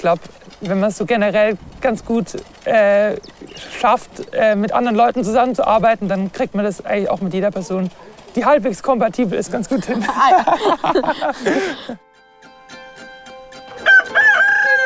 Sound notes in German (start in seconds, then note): 9.6 Lachen